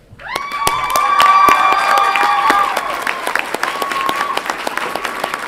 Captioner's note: audience applauds and cheers